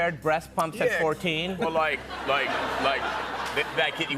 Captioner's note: laughter